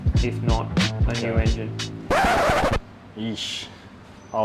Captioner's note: needle scratches on record